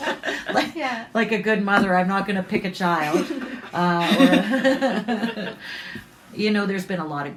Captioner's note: laughter